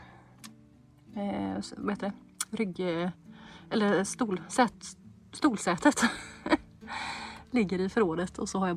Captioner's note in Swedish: skratt